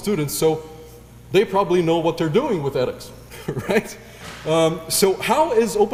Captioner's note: laugh